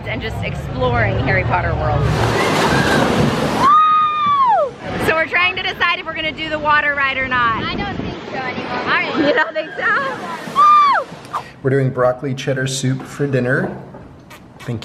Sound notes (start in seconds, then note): 3.5 scream